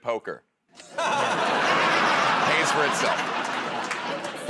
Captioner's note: laughter